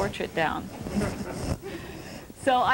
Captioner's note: laughter